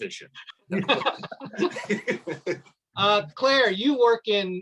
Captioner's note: laughs